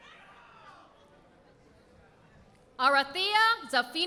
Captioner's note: none